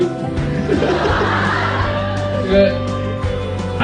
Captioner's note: holding his laugh